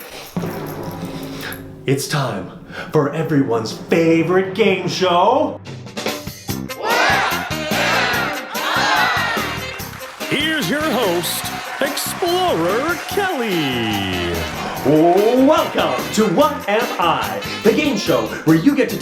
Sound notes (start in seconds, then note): 0.1 drumroll; 6.0 game show music; 13.5 audience cheering